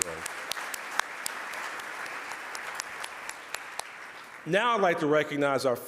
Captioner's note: audience applause